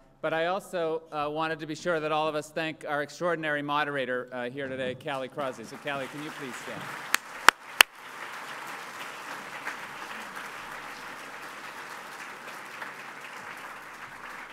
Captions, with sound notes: But I also wanted to be sure that all of us thank our extraordinary moderator here today, Callie Crossley. So Callie, can you please stand? [APPLAUSE]